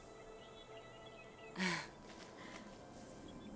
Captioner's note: Alora laughs